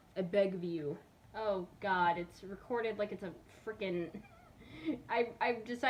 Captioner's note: laughs